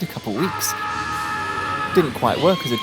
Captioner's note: monster yell